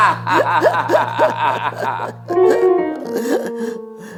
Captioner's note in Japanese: 笑い